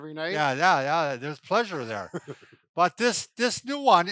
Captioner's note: chuckles